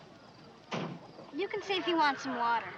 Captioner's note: none